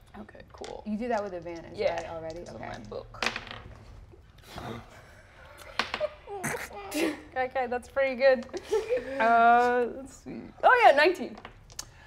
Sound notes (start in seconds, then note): 3.1 dice tap table; 5.7 die taps table; 5.9 players chuckle